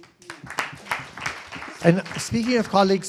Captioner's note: applause